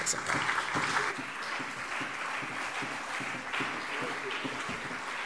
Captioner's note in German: Beifall CDU und BÜNDNIS 90/DIE GRÜNEN